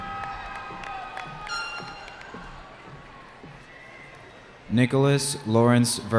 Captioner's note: cheering